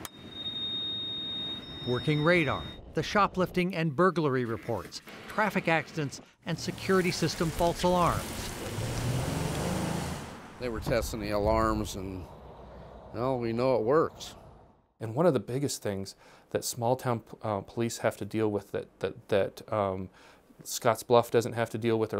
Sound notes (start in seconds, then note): 0.0 radar beeps; 7.7 car driving away